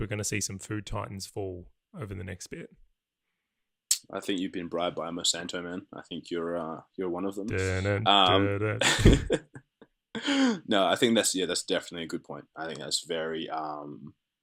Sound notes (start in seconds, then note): 7.5 humming ominous tones; 8.8 laughter